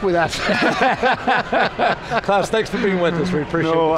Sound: all laughing

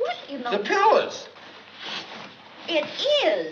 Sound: sniffs

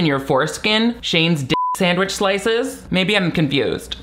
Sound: beep

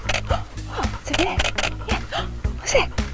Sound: camera shuttering; sharp intakes of breath; camera shuttering

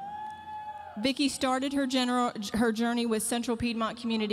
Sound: audience member cheering

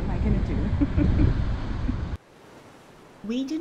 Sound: chuckling

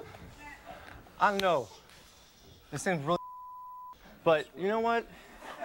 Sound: beep

